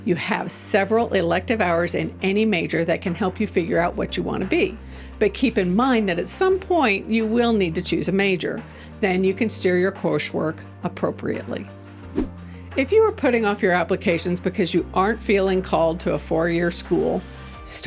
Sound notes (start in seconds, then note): 11.8 gentle music; 12.1 transition whooshing